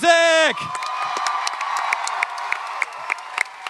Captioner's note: audience clapping and cheering